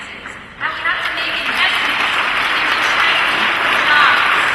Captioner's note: applause